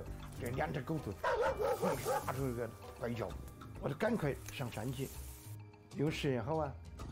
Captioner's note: barking; rustling